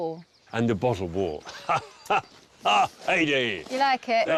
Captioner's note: laughing